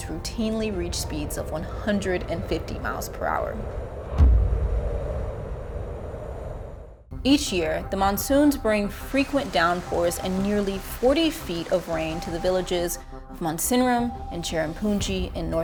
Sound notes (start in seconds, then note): 4.3 wind howling